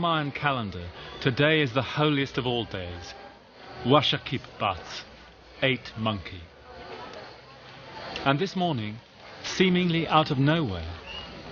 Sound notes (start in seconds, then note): 3.9 foreign language